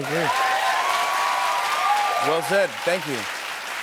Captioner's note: cheers and applause